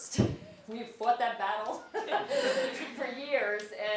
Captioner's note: laugh